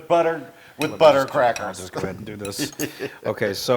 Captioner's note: laugh